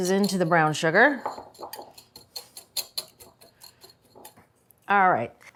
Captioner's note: whisk rattling